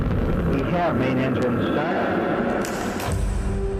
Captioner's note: visors click shut